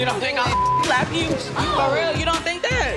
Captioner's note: beep